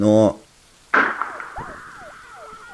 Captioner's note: shot